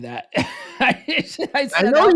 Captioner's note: laughs